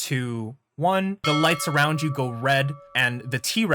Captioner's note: bell